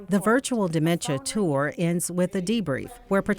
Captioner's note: voiceover